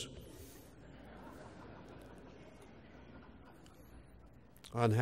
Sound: laugh

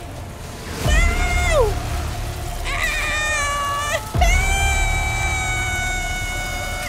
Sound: screams like a chainsaw

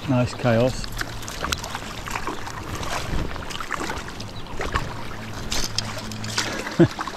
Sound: water splashing

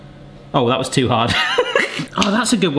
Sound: laughs

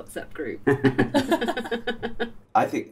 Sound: laughter

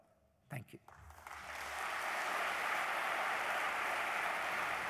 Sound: applause

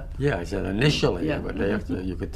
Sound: laughs

